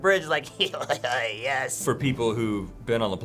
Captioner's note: devious chuckling